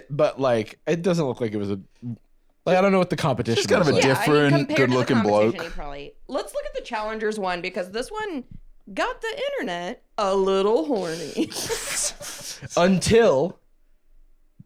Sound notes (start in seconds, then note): 11.0 laughs